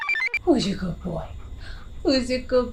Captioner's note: computer chirps; dog pants